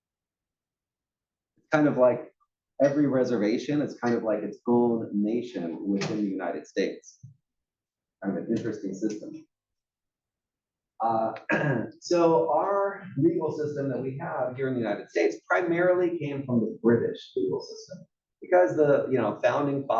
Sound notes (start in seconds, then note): 11.4 cough